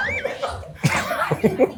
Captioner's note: laughter in background